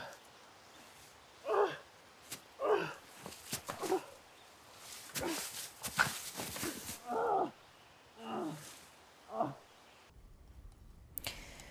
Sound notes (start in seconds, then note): 0.1 Arawn grunting; 7.0 Arawn groaning